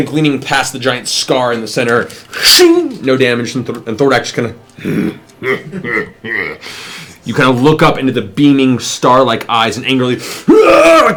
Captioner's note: laughs; yells